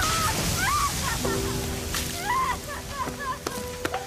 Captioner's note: crying